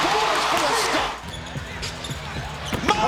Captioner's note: crowd cheers